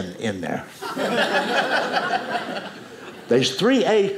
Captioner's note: audience laughing